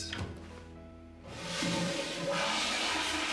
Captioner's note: toilet flushes